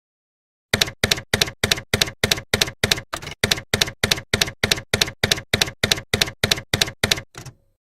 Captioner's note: typewriter keys clacking